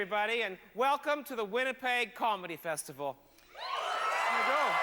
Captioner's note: hoots and cheers